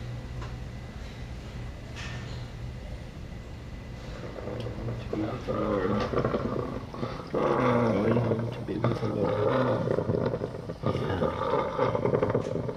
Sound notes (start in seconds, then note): 6.9 ragged Breathing, Grunting